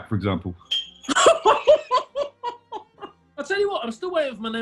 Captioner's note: laughter